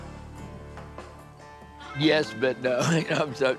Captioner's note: laughs